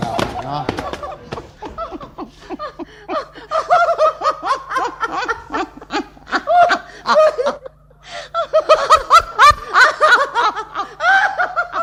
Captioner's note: they both laugh uncontrollably